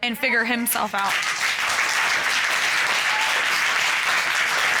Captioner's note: applause